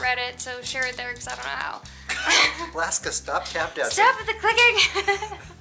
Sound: laughter

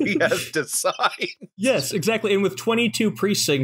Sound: laughter

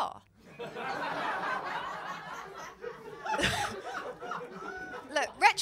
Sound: laughter

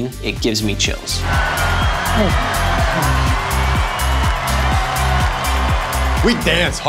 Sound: upbeat music; cheering

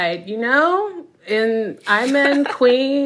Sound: laughter

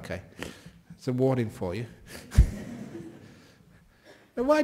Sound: laughter

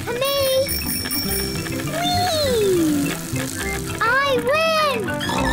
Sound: rings bell; snorts

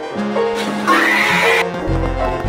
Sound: the screams of a genius

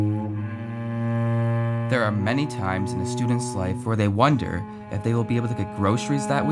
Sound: male student voice

